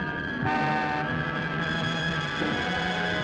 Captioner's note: car horn honking